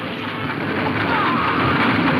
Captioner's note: horses galloping; men whooping